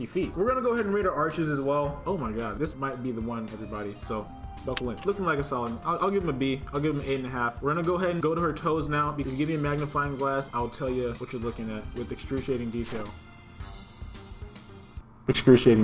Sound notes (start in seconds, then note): 4.7 click